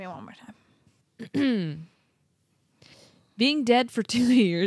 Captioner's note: clearing throat